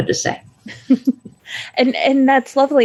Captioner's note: laughing